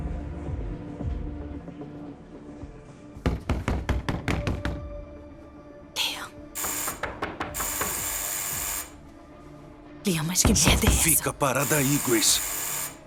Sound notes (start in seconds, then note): 3.3 knocking; 6.5 door buzzing; 7.0 knocking knocking